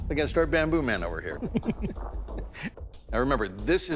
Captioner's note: both chuckle